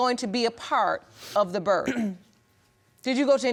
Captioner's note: clears throat